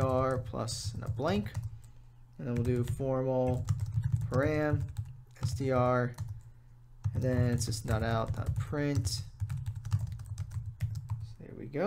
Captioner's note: typing